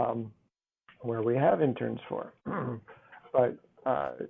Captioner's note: clears throat